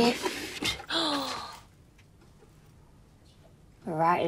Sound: twin gasps

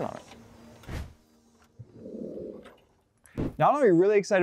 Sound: wheels whirring

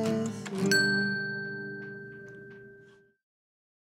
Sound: timer dinging

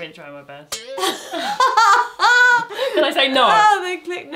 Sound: metal twangs

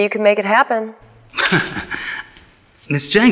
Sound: Attorney Laport chuckles

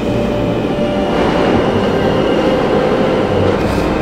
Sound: loud subway trains

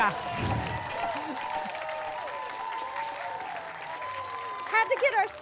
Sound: applause and cheering

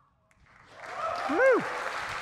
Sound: audience cheering and applauding

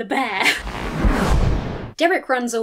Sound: swoosh

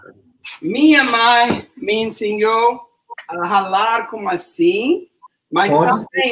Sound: speaks portuguese

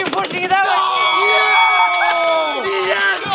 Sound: bell dinging

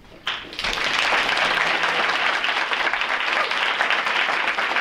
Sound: audience applauds

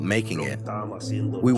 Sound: through translator

